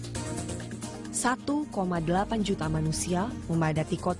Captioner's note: non-english speech